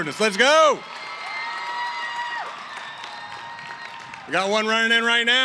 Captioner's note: cheering & applause